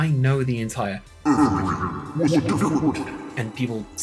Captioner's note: in a mockingly deep voice, with reverb